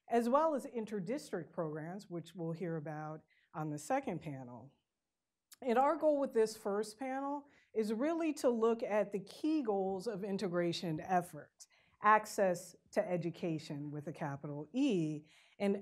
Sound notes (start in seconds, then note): none